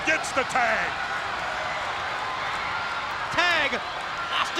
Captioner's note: spectators cheering and applauding